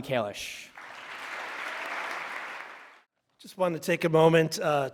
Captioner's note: audience applause